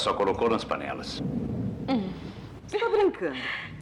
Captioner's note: laughing